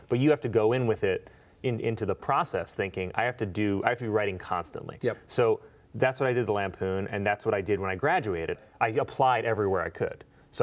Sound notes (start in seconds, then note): none